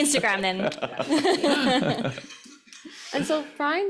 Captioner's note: laughs